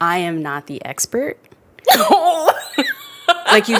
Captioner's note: laughs